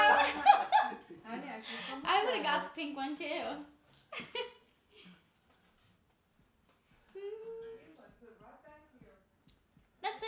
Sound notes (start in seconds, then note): 0.0 laughing; 4.8 chuckling